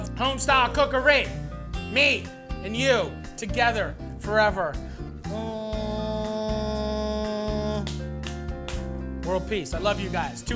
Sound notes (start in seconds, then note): 5.3 humming; 7.8 slaps belly